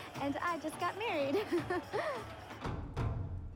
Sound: laughing

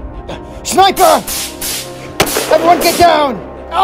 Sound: gunshot Sounds

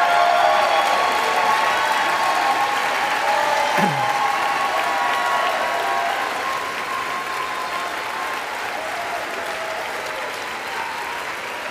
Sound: applause

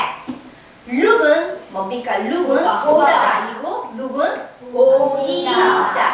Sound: speaking foreign language

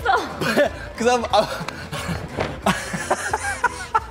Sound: both laugh

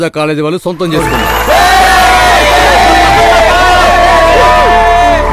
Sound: hooting

